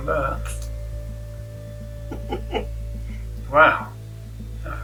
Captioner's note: old lady laughs